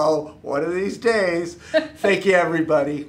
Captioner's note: laughing